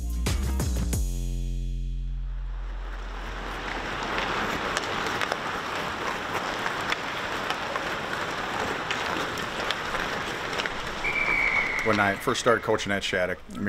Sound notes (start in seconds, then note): 0.0 upbeat music; 11.0 whistle blows